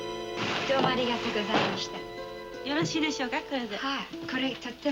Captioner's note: speaking Japanese